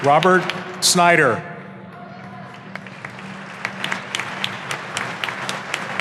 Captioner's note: audience applauding